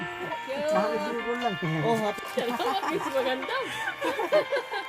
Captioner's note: laughing